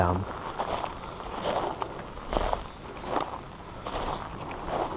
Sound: footsteps thudding

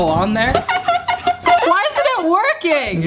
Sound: ballon squeaks

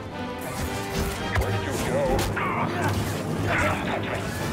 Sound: groan

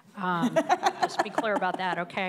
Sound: laughs

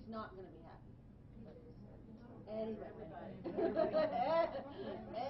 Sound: laughing

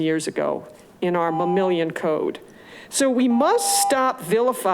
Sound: continuous beeping

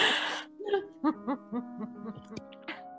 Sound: laughter

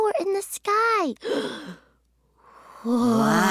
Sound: gasps

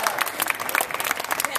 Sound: applause

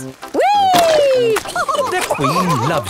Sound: all laughing

